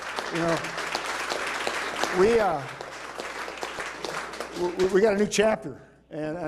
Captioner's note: applause